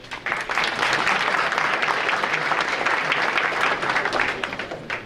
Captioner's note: audience applauding